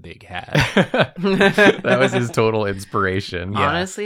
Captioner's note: laughs